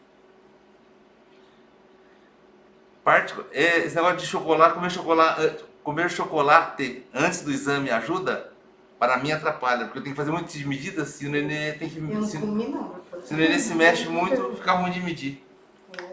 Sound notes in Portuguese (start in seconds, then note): 13.2 risos